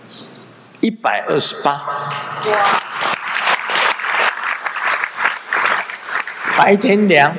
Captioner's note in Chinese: 眾鼓掌